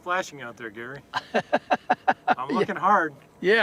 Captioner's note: laughter